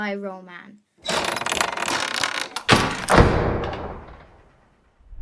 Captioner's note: lock rattles and clanks